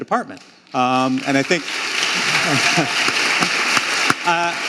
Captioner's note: audience applauding